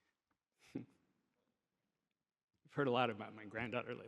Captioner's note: chuckles